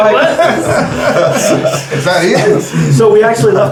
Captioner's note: crowd chattering